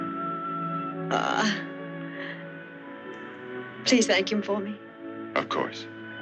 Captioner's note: sighs